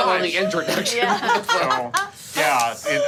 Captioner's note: laughing